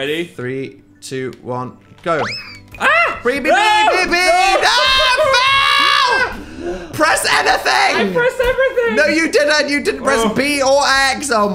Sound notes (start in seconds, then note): 2.8 shouts; 4.5 screams